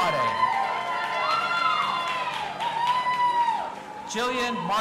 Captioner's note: audience applauding and cheering